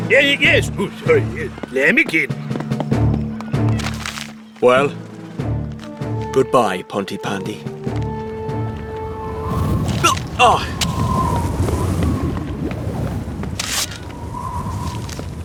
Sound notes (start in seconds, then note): 11.5 wind Gusting